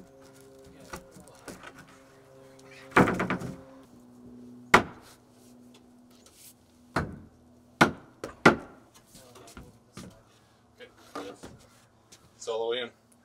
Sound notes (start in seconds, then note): 2.9 plank clunks; 4.7 sledge hammer knocking